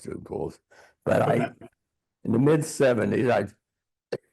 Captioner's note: coughing